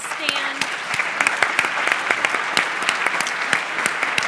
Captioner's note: applause